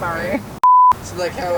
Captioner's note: beep